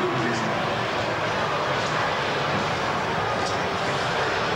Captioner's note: applause